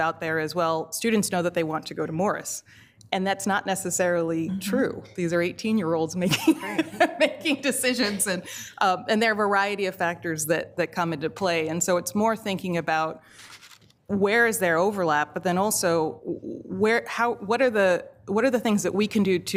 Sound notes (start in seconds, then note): 6.6 laughs